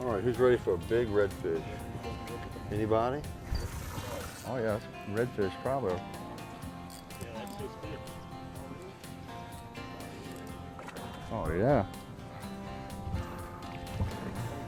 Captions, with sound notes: - All right, who's ready for a big red fish? Anybody? (upbeat country music) (water splashing)